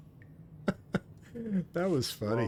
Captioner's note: laughs